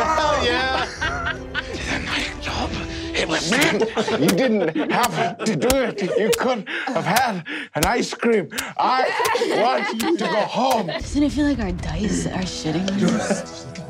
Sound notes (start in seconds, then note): 4.2 blade stabbing